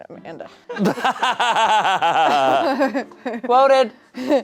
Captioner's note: laughs